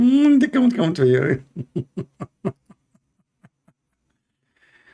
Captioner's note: Ketawa